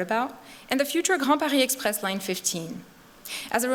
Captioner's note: non-english speech